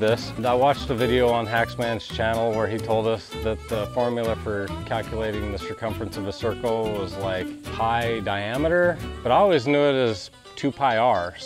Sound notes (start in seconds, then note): none